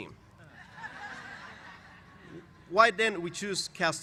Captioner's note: laughter